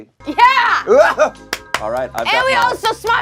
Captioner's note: claps